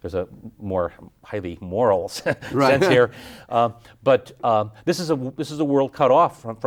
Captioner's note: chuckles